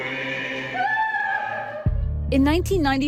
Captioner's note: crying